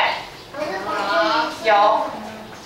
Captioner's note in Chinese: 學生回答